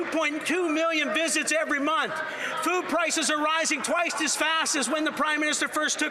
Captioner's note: applause